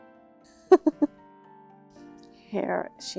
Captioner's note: laughing